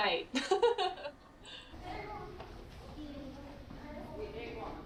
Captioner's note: children chattering